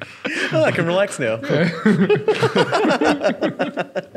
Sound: laughing

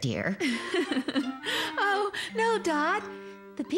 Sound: chuckling

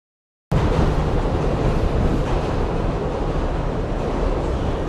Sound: train sound effects

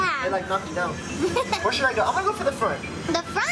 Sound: laughing

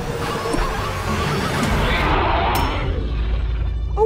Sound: dinosaurs roar

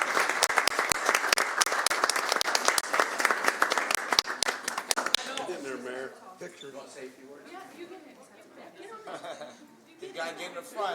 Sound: applause

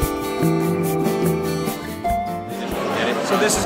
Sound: crowd murmur

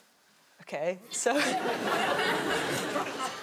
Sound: chuckling

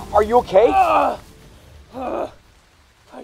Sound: grunts

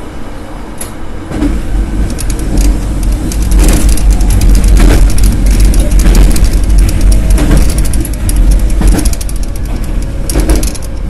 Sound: after a click, the train begins to slow down

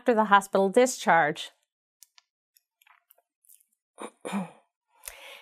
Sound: cough

